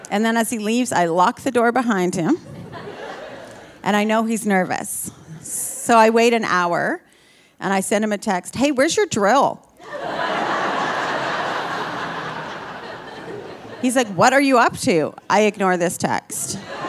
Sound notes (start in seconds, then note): 9.8 audience laughing